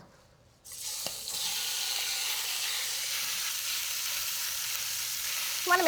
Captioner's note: sizzling